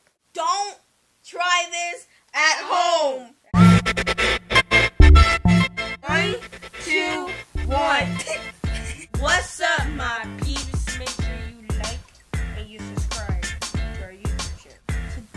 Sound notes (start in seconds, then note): 3.5 upbeat music; 7.7 laughs